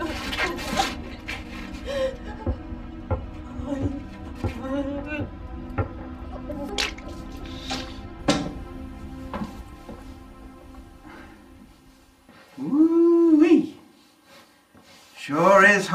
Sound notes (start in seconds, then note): 3.3 footsteps; 6.6 water splashing; 8.7 footsteps